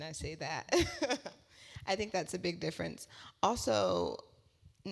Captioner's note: laugh